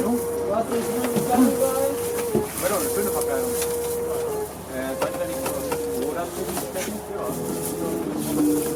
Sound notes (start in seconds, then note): 0.0 indistinct chatter